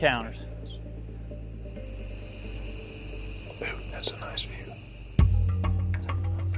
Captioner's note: whispering